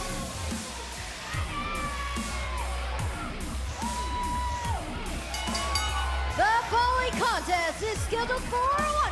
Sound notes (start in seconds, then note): 6.9 bell ringing